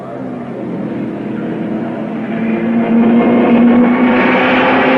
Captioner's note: car revving